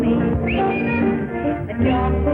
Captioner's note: whistles